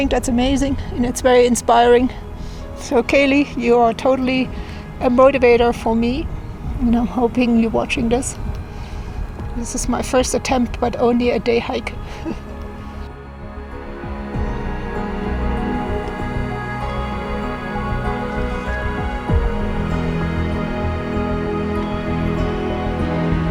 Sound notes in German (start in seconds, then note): 12.0 lacht; 13.2 Spannungsvolle Musik